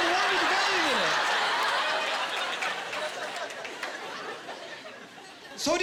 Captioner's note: laughing